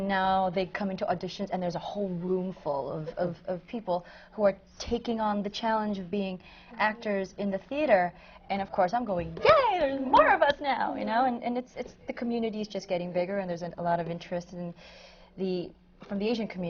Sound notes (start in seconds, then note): none